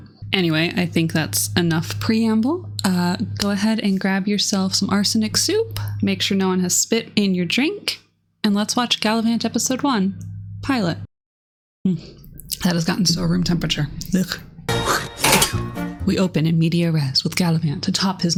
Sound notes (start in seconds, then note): 14.8 loud spitting